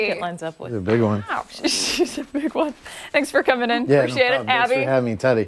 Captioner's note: laughter